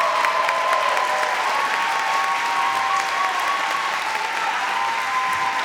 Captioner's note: audience cheering and clapping